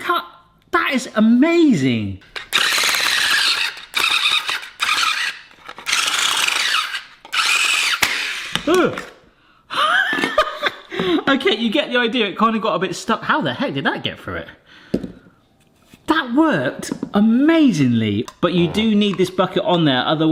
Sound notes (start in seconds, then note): 2.3 motor whirring; 8.2 pieces clatter apart; 8.2 yelps; 9.9 laughs